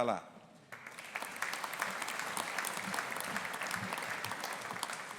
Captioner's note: audience applauding